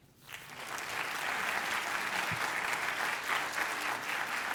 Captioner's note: applause